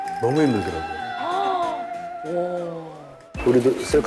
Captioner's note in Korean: 감탄